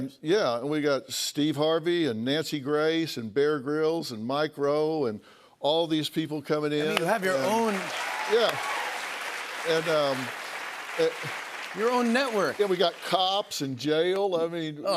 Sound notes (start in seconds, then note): 6.9 cheers and applause